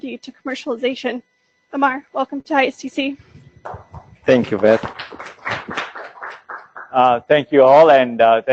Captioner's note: applause